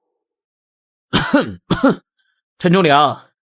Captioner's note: cough cough